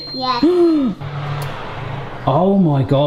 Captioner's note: dad gasps